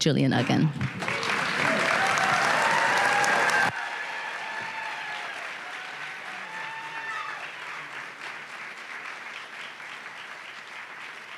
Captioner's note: applause and cheering